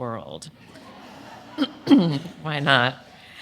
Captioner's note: audience laughing